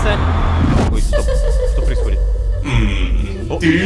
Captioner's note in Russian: Смех